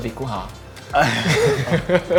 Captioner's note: sigh; laugh